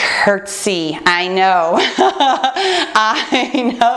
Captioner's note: laughs